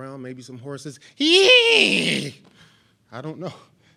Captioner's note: groaning